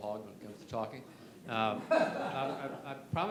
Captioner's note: laughter